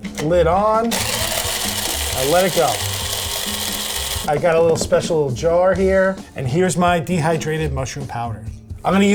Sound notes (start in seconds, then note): 0.9 mushroom grinding